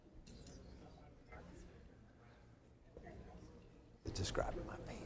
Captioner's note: woman speaking off microphone